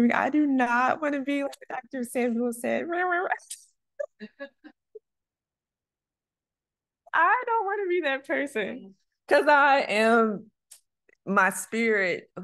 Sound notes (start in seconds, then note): 2.9 mumbling; 4.0 laughter